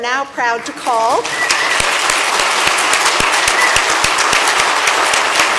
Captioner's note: applause